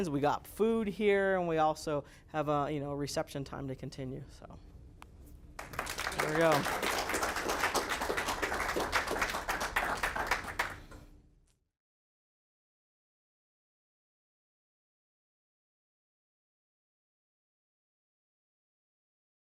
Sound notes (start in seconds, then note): 5.6 students applaud